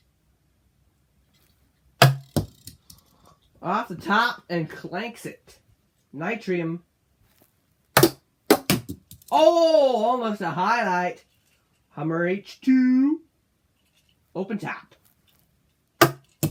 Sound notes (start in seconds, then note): none